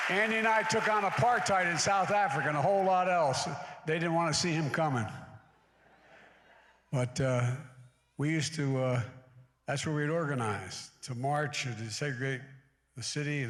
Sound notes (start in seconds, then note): 5.6 laughter